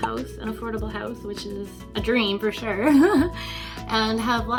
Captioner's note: laughs